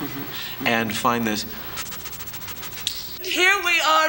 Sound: breaths quickly

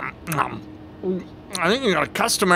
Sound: gulps

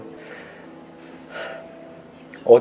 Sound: sigh

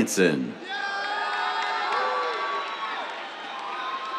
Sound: cheers, applause

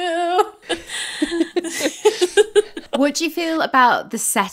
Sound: both laughing

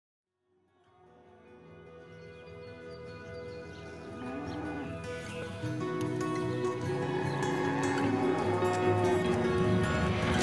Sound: cows mooing

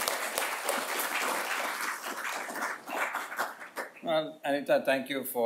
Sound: audience applauding

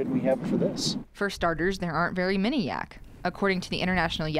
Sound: voiceover

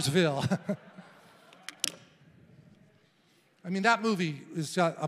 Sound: congregation laughing

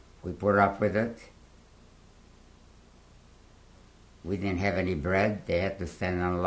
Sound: pauses for 3 seconds

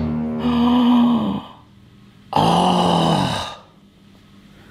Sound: man sighs

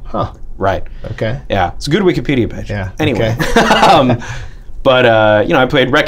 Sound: laughter

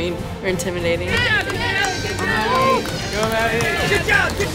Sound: cheering

